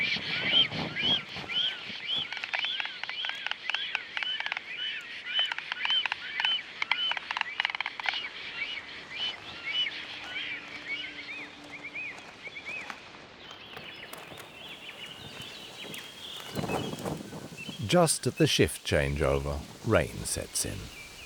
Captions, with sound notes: [storks croaking] Just at the shift changeover, rain sets in.